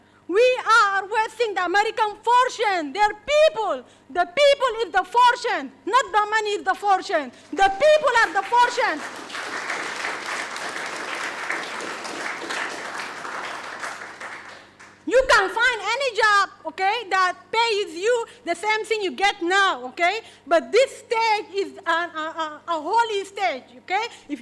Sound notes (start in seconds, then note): 8.1 audience applauding